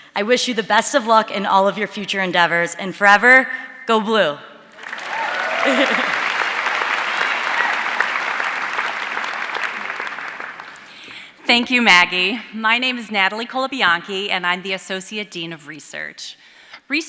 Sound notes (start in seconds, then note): 4.7 audience cheering and applauding; 4.8 chuckles